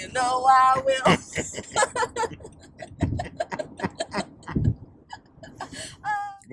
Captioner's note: laughs